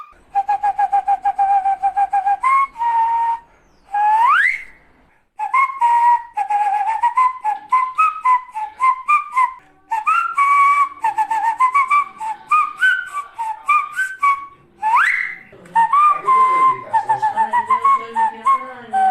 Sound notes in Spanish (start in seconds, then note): 0.0 Silbidos con un puro en la mano; 5.2 Silbidos